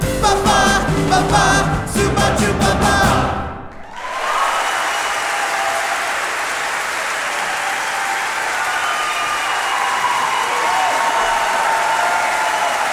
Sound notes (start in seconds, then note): 3.6 audience cheering; 3.7 audience applauding